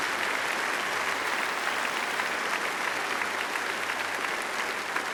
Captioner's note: applause